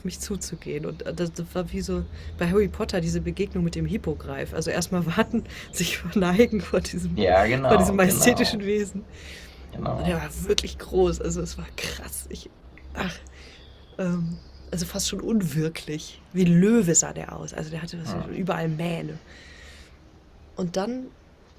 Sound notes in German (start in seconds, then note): 5.5 gelächter